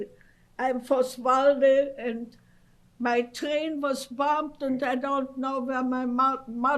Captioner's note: non-english